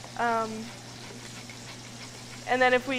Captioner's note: zester grating